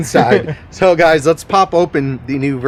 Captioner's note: chuckles